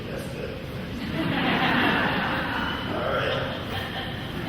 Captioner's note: laughing